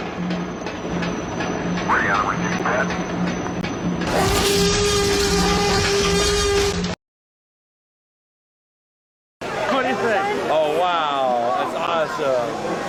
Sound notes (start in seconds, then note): 0.1 music: drums beating; 4.1 sfx: T-Rex Roaring